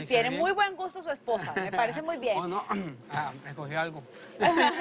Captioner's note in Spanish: carraspea